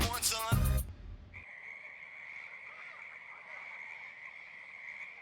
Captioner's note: insects chirping